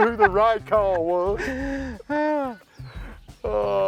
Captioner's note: laughter